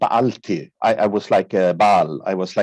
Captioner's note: speaking in a foreign language